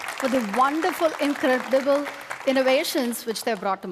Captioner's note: applause